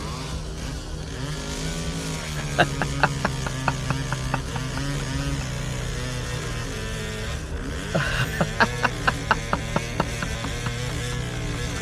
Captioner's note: evil laughter and chainsaw sounds – a portal opens